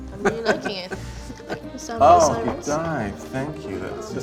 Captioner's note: Yotam laughs